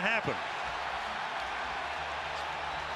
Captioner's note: crowd cheering